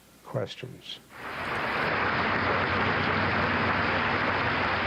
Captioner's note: audience applauding